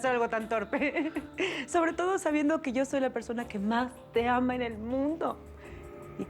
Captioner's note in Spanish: Risas